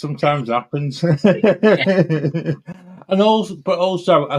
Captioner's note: laughs